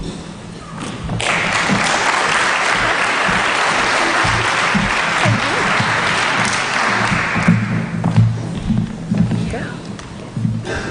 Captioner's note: applause